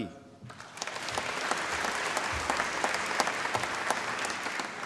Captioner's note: applause